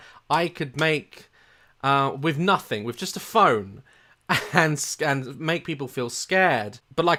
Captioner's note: chortle